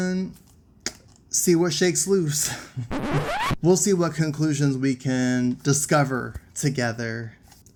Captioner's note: record stratch